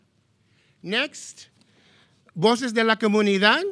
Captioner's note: speaking in foreign language